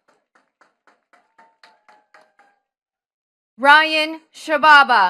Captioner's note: attendees clapping